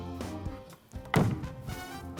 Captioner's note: celebratory music; echo